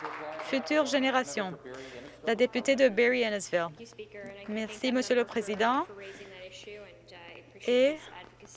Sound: some Applause

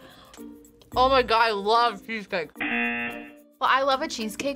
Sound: buzzer

